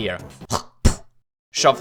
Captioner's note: spits